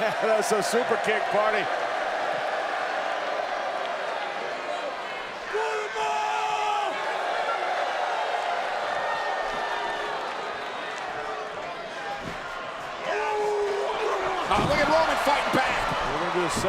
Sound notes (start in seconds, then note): 2.6 crowd murmuring